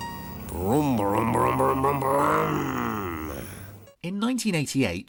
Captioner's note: imitating engine revving